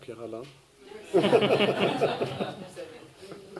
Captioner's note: laughter